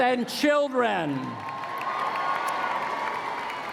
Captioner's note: applause